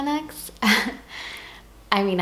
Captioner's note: chuckle